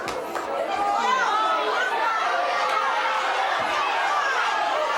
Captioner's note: audience yells